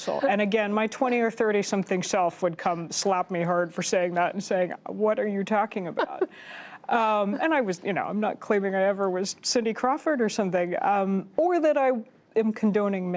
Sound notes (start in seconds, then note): 6.0 laughter